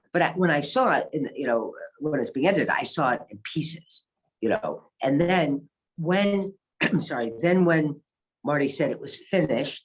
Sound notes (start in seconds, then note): 6.1 coughs